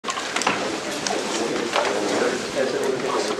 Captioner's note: indistinct conversation